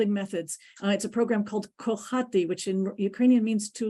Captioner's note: ukrainian